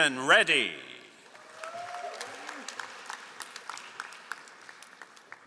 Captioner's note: all applauding